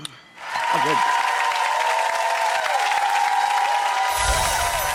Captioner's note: audience applauds